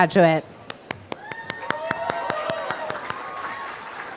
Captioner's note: applause